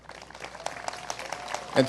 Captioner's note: applause